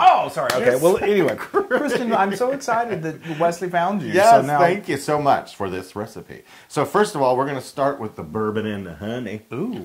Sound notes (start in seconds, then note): 0.6 laugh